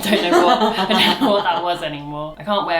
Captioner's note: laughs